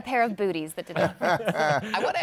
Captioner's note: laughter